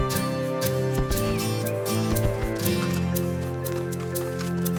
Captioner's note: birds chirping